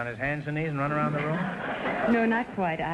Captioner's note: audience laughter